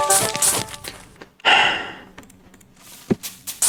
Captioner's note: inhales Oxygen